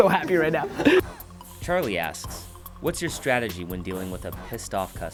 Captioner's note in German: Voice-over